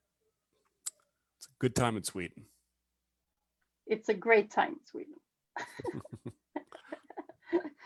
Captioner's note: laughs